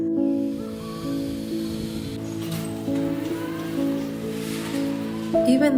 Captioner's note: gentle music; mechanical whirring